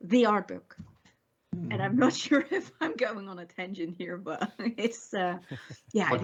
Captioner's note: chuckles